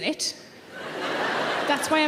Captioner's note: audience laughing